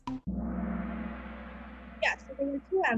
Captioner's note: gong